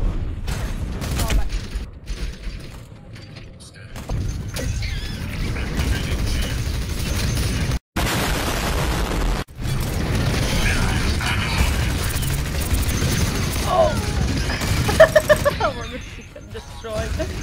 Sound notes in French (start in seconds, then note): 8.0 boom